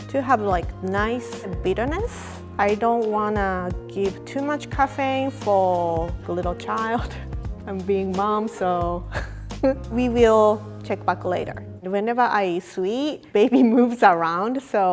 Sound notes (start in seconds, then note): 9.2 laughs